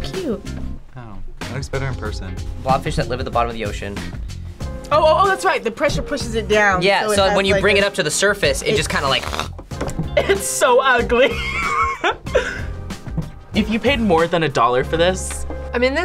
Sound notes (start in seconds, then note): 9.5 fish squelches; 11.2 laughs